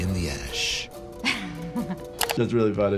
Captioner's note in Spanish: se ríe